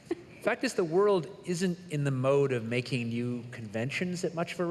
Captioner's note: laughter